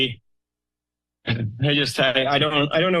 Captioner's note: pause